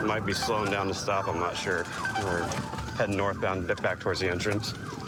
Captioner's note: sirens blaring